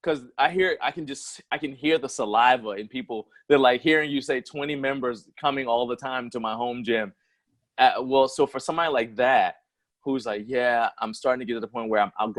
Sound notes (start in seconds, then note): none